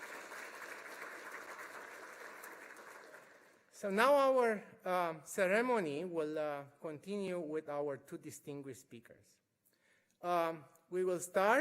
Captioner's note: applause